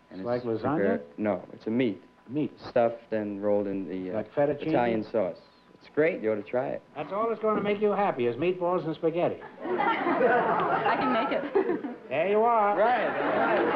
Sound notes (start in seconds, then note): 9.4 laughter